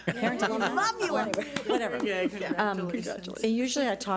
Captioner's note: cheering and applauding